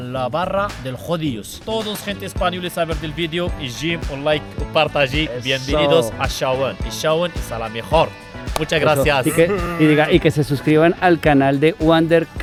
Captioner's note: laughs